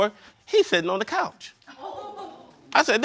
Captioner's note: audience laughing